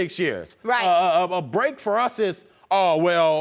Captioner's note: stutters